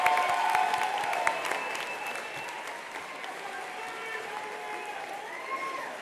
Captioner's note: attendees applauding continues